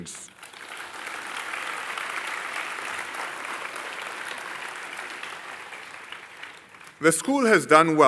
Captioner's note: applause